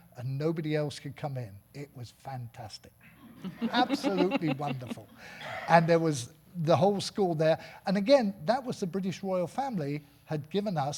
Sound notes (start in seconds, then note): 3.3 audience laughing